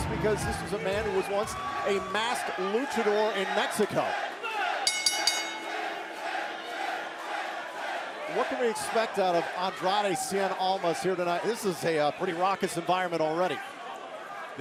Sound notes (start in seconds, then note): 6.4 crowd cheering; 7.7 bell ringing